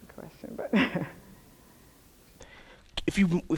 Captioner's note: chuckles